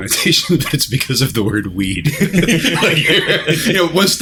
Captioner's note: laughter